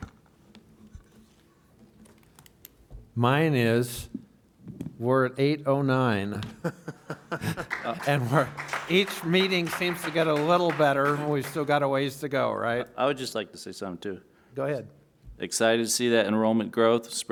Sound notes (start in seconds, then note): 6.5 laughs